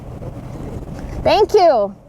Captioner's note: wind blowing